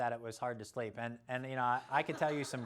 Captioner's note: laughter